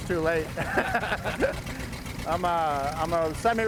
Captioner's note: laughter